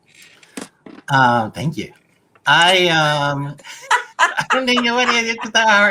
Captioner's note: laughter